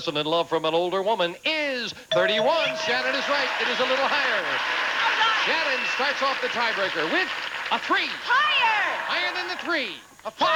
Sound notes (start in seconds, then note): 2.3 audience applauding